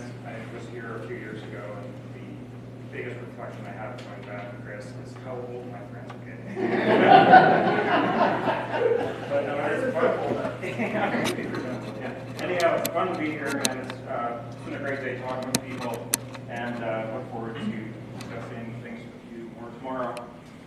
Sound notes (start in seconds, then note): 6.4 laughter; 9.2 laugh